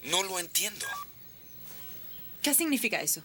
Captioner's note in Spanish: gravador emite um bipe